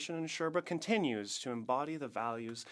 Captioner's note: speaking French